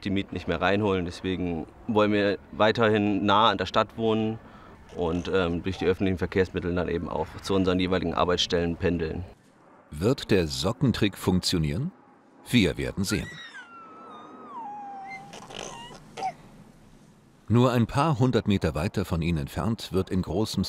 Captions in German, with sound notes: auch durch die Mieten nicht mehr reinholen, deshalb wollen wir weiter nah an der Stadt wohnen und durch die öffentlichen Verkehrs- mittel in die Arbeit pendeln. Wird der Sockentrick funktionieren? Wir werden sehen ... (Babylaute) Nur ein paar hundert Meter weiter von ihnen entfernt